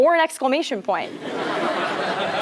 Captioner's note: laugh